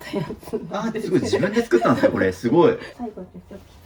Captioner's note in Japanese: 笑い